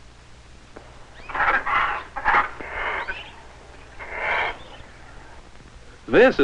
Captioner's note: parrot squawks